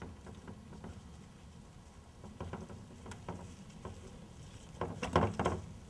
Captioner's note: none